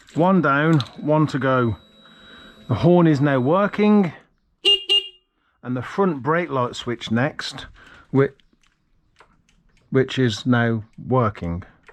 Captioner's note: beep. beep; beep, beep